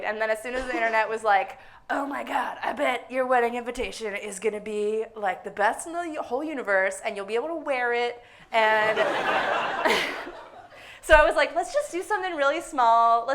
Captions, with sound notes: and then as soon as the internet was like, "Oh my God! I bet your wedding invitation is going to be the best in the whole universe, and you'll be able to wear it-- [audience laughing hysterically] [suppressed laughter] So I was like, "Let's just do something really small.